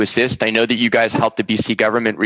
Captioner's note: laughter